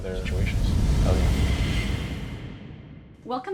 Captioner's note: air rushing